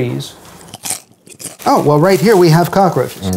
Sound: crunching

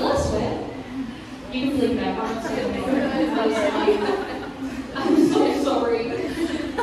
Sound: laughs

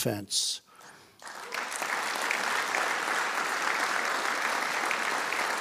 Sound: audience applauding

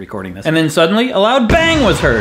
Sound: explosion noise

